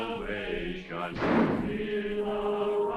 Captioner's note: gunshot